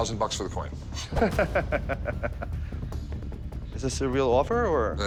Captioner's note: laughs